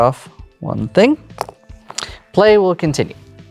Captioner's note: pen rattles